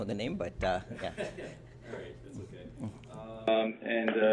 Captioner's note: reporter laughs